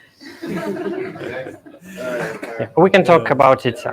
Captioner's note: all laughing